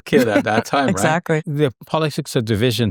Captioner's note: chuckles